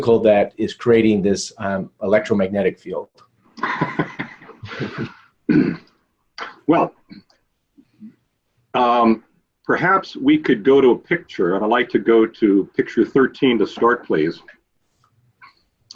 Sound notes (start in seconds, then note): 3.6 laughing